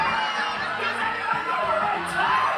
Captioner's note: audience screaming